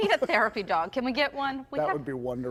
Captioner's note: laughter